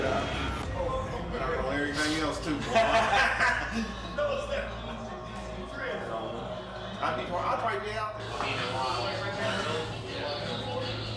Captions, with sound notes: And I know everything else too, boy. [laughter] He knows that. [chatter]